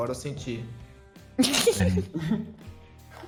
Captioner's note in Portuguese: risos